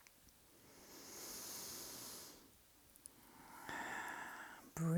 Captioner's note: breathes deeply